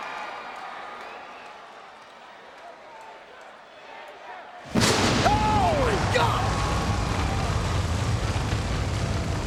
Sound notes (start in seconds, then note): 4.7 lightning thundering